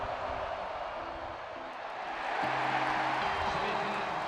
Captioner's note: crowd cheers